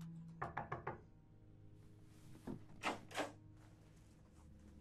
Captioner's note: knocking on door